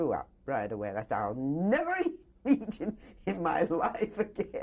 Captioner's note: laughs